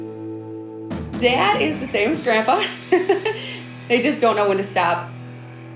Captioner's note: laughs